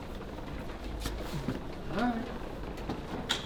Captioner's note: wheels rattling